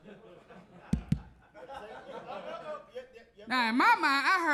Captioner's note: hand taps